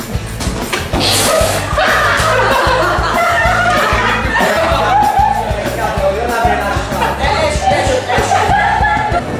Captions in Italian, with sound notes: *RISATE FUORI CAMPO* E-esci esci, esci!!!